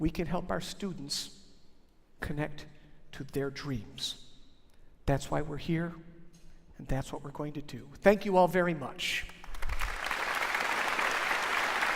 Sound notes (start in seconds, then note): 9.2 applause